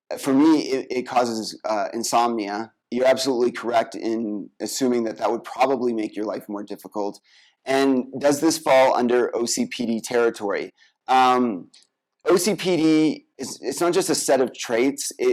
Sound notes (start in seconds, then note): none